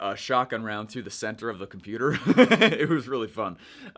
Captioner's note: laughing